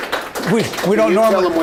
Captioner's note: applause